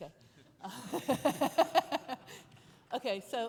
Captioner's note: laughing